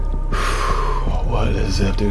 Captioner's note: sigh